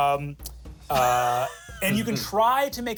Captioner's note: laughs